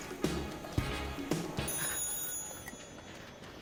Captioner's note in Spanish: Suena el teléfono